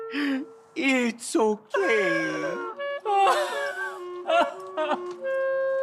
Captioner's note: Frenchie crying